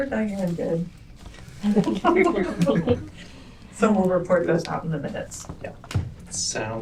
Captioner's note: laughter